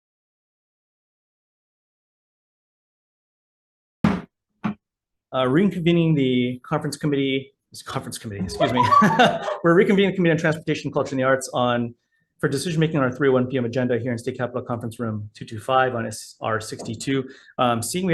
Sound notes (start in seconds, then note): 4.0 gavel bangs